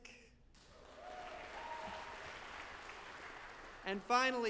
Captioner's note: audience applauding